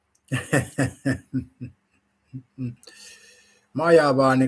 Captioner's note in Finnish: naurua